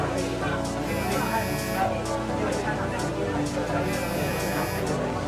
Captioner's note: sound of cell phone vibrating